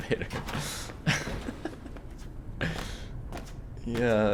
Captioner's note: laughs